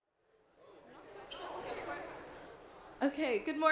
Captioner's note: general private conversations